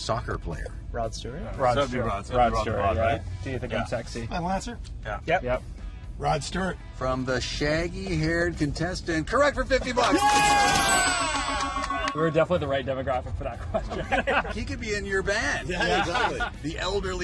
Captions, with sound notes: British rocker considered a career as a pro soccer player? Rod Stewart? Rod Stewart. It's gotta be Rod Stewart, right? "Do you think I'm sexy?" Final answer? Yeah. Rod Stewart. From the shaggy-haired contestant, correct for $50! Yeah! [Cheering] We're definitely the right demographic for that question. [Laughing] He could be in your band. Yeah!